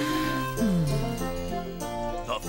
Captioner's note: humming; sighs